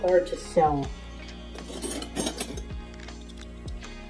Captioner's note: sound of flatware rattling around